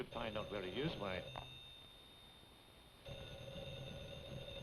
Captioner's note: telephone rings